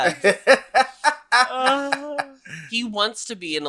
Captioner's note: laughs